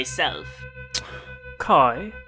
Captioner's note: lip smack